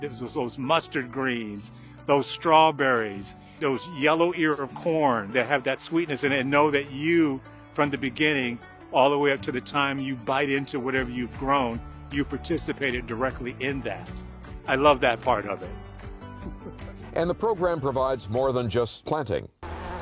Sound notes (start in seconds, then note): 16.4 chuckles; 19.6 bees buzzing